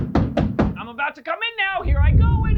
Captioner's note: knock on the door